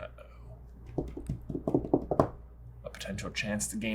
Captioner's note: tapping fingers on table